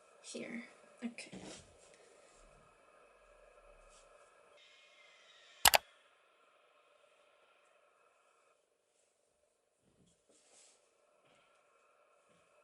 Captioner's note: tutorial playing in the background